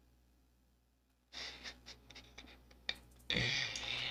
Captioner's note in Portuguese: Risos